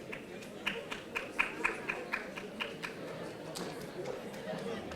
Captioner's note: audience applauding